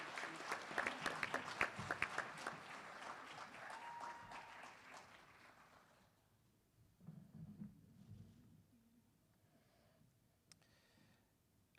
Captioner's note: applause